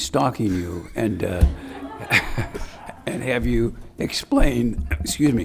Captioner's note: laughing